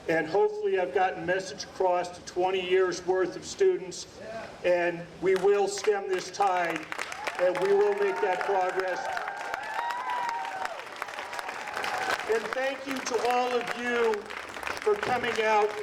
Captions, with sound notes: And hopefully I've gotten message across to 20 years worth of students. And we will stem this time. And we will make that progress. (audience applauding) And thank you to all of you for coming out